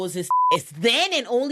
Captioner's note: beep